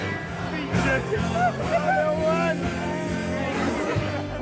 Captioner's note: drunken shouting and laughing